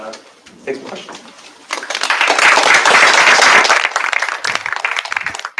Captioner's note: applause